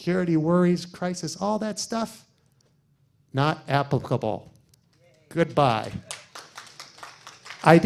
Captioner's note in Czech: potlesk